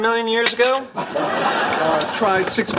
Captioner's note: laughing track